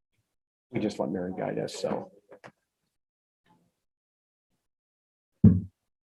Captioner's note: group members chatting indistinctly